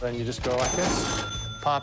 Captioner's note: cash register chiming